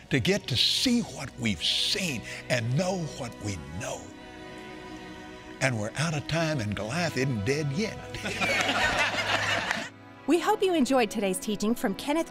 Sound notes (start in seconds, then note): 8.0 congregation laughing